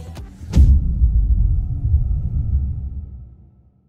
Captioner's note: dramatic sound